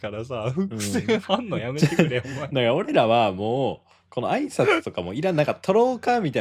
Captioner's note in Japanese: 笑い